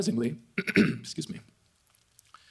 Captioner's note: clears throat